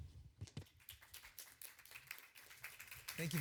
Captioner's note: applause